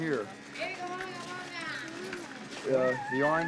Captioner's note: woman yelling in Arabic